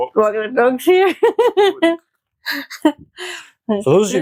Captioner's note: unicorn laughs